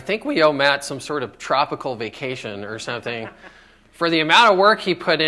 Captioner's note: laughter